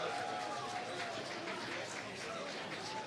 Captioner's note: applause